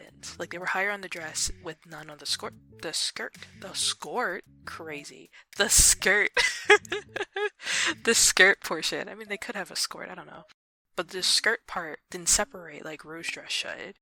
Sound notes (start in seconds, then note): 6.4 laughs